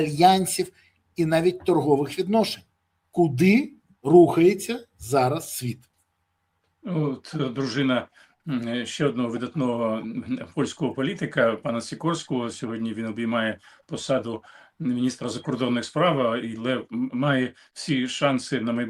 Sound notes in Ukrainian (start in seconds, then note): none